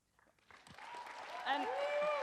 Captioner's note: audience cheers and applauds